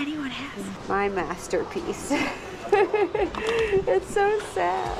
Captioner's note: laughs